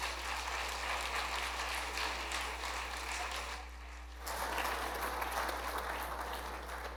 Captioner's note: applause